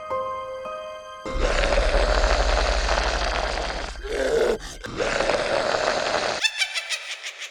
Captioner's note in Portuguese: Música de suspense; Grunhidos; Risada de bruxa